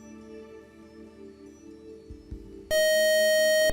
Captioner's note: buzzer